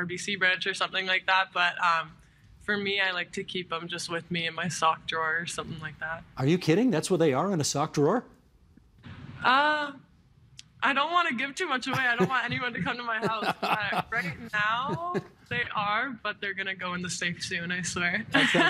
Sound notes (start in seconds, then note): 16.1 laughter